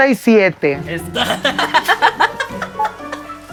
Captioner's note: laughs in nayaritan